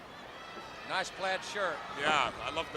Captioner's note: crowd chatter